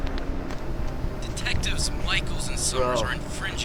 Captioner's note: Marty Over Radio